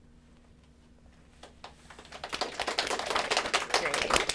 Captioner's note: applause